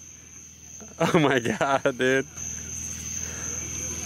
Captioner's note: laughing